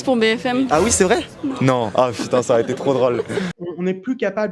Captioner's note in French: rires